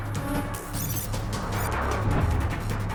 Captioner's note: computer beeps